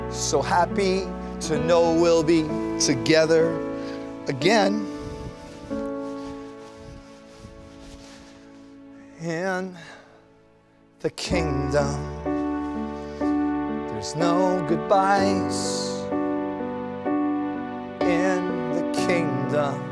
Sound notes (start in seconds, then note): none